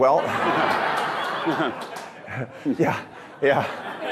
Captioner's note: audience laughing